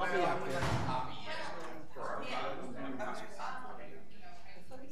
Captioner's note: people chattering